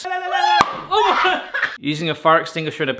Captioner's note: screaming; cork popping